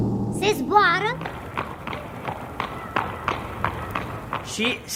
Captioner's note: hoofbeats